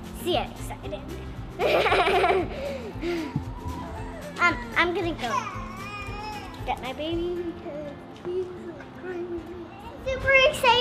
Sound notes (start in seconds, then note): 1.6 laughing; 5.9 baby crying